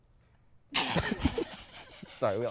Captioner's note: start laughing